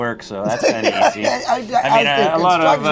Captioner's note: laughs